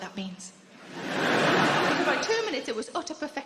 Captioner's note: crowd laughing